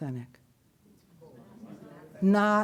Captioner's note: audience murmuring